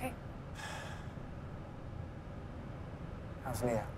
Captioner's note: Mark sighs